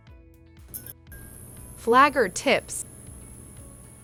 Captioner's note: light bulb flickering on